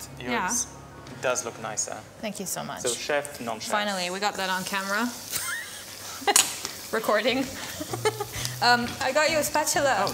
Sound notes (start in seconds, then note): 5.2 laughs; 7.6 laughs